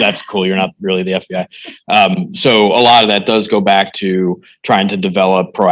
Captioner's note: laughing